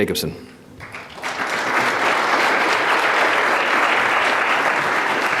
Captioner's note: audience applauding